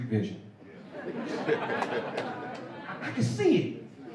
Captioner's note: laughter